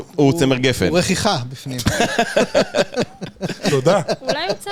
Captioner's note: laughter